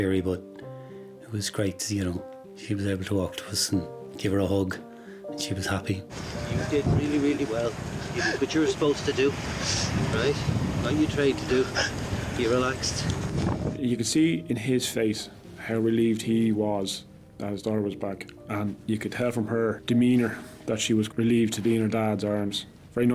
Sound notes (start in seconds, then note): 8.1 sobbing